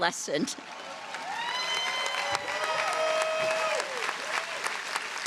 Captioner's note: audience applauding